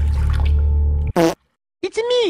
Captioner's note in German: Pupsgeräusche